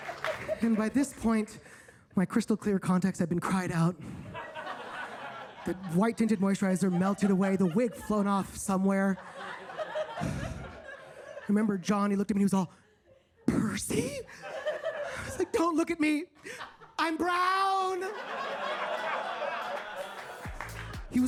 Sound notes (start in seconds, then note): 4.3 audience laughs; 18.0 audience laughs